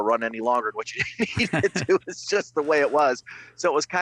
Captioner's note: laughs